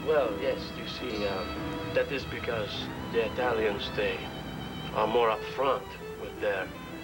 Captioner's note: fnch accent